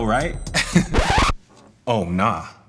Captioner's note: elevator Ding